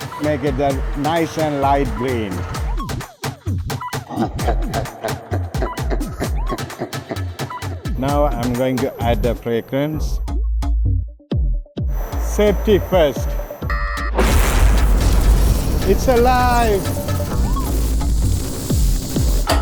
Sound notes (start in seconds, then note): 4.0 cackling; 11.9 machine beeping; 14.2 lightning cracking; 17.2 electricity buzzing